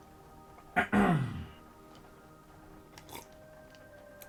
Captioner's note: clears throat, sips water